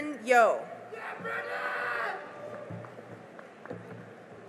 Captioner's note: cheering and applause